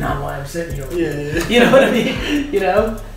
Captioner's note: laughs